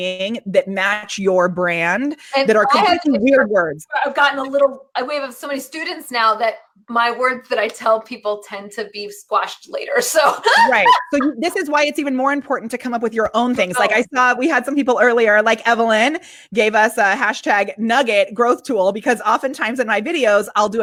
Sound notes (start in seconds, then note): 10.4 laughs